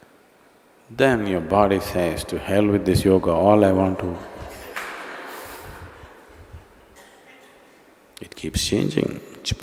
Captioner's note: few laugh